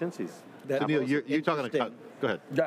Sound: group speaking together

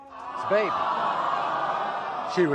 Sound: audience awes

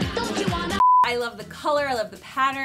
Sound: beep

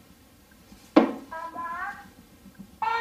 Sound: thud

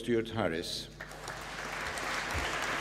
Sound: applause

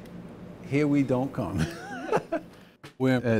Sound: laughs

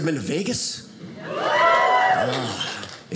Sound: audience cheers

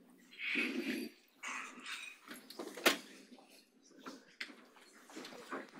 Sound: presenters chattering faintly

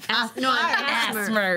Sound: group laughing and talking

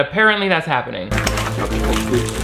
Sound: packages crinkling

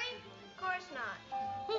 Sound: doorbell tone

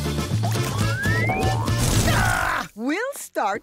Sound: shrieking

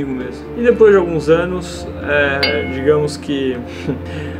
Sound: ding!

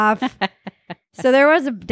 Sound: laughing

